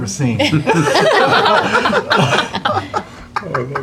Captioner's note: laughter